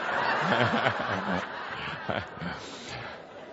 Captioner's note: more laughter